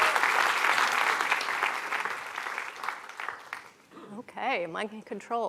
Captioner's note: applause